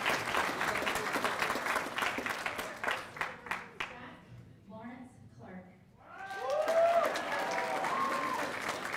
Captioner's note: cheers and applause